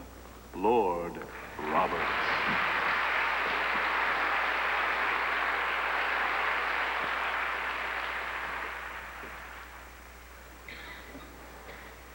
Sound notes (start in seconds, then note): 1.2 applause